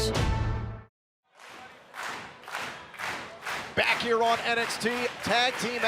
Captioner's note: crowd cheering